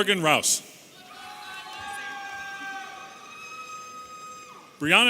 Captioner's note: audience cheering